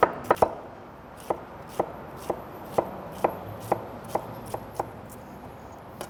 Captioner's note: knife slashing and cabbage crushing